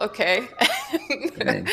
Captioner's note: laughs